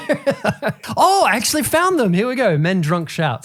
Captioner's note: laughing